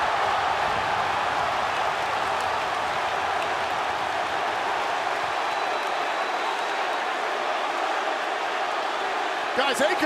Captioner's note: crowd cheering